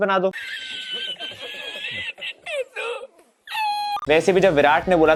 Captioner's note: laughing